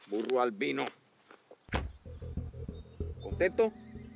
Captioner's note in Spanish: ruido del golpe